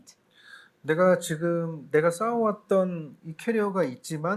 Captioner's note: speaking korean